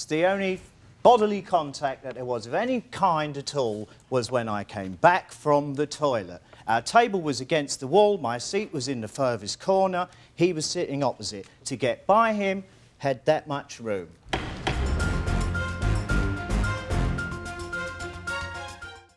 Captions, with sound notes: The only bodily contact that there was of any kind at all was when I came back from the toilet. Our table was against the wall. My seat was in the furthest corner. He was sitting opposite. To get by him, had that much room. (gavel bangs) (dramatic music)